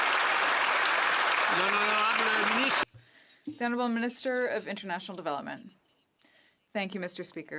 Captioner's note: some Applause